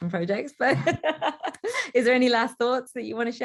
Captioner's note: light laughter